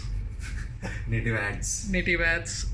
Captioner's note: laughing